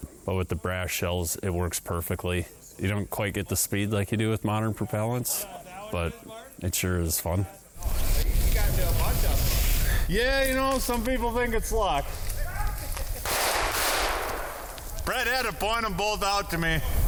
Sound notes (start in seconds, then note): 13.2 gunshots ring out